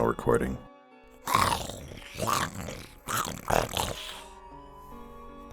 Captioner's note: snarling